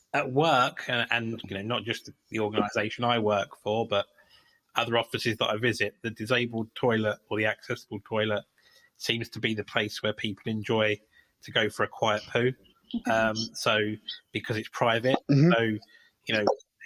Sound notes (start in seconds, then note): 15.2 chuckle